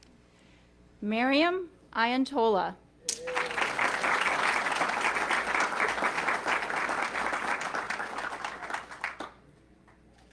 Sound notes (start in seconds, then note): 3.1 audience clapping